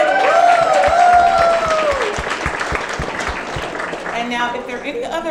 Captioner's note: audience cheering and clapping